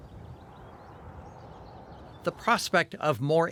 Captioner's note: birds chirping